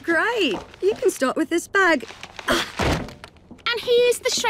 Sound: British accent

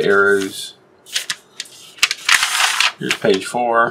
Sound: paper crinkles

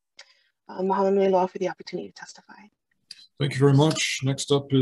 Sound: in foreign language

